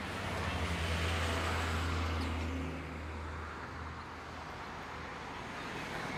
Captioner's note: vehicle traffic speeding